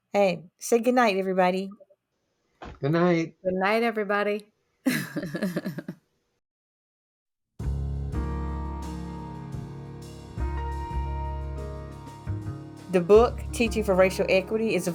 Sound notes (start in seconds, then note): 4.8 laughs; 7.6 slow upbeat music